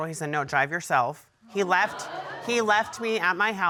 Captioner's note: audience murmuring